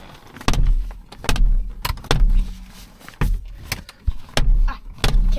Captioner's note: headrest banging window